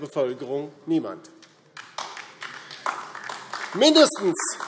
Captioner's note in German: Beifall DIE LINKE